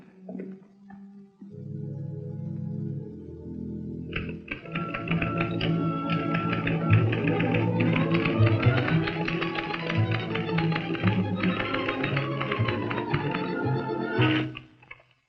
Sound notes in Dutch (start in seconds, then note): 3.9 opgewekte orkestmuziek; 4.9 typemachine toetsen klikken